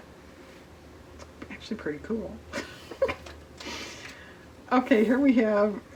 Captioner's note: laughs